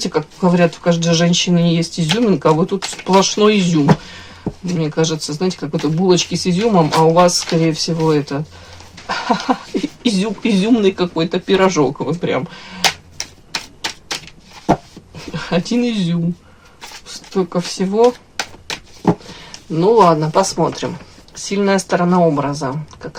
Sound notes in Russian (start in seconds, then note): 9.0 смех